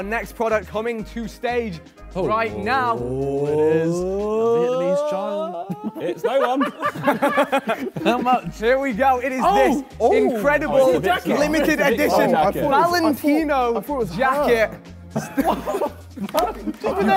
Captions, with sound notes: - We have our next product coming to stage right now. (Sidemen cheer) Here we go, it is this incredible, limited edition Valentino jacket. - I thought it was her.